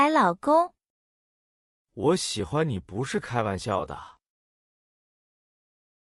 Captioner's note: talking to himself